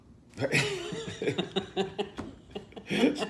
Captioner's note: laughter